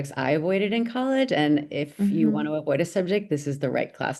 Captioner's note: vocal nod